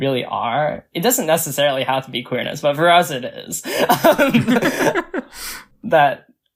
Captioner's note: both laugh